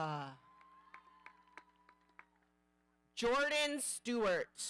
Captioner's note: audience cheering